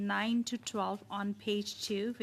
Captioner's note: speaking French